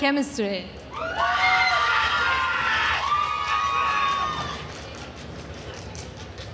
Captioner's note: attendees cheering and applauding